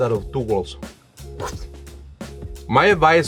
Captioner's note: vocalizing explosion